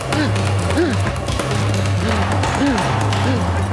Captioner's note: panting